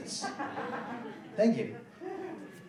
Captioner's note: laughing